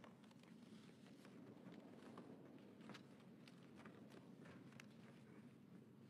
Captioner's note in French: voix de l'interprète